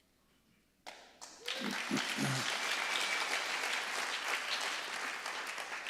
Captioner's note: audience applauding